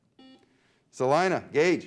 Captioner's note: beep